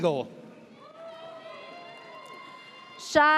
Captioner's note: audience cheers